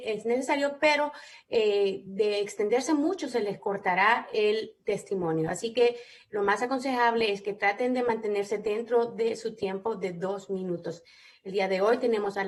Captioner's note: speaking spanish